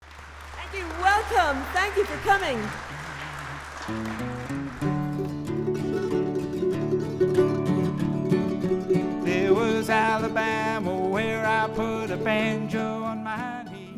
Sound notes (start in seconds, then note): 0.0 applause; 3.9 bluegrass music playing